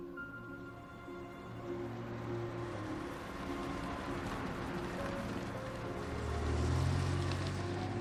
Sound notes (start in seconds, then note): 0.1 car engine humming